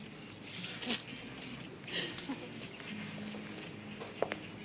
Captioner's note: girl chuckles